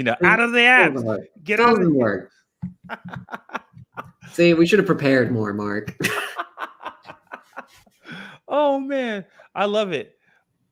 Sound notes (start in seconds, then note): 5.9 laughter